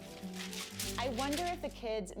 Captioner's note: papers shred